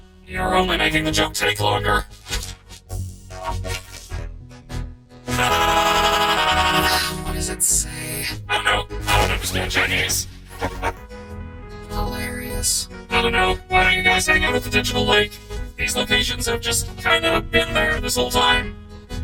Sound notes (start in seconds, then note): 5.3 laughs manically; 5.4 sighs; 10.6 chuckles